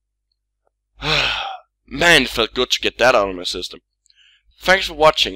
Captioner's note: sigh